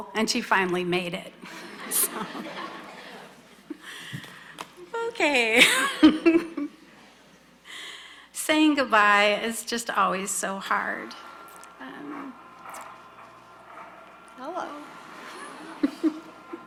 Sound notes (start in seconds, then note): 1.4 audience laughing; 5.6 laughs; 14.6 laughs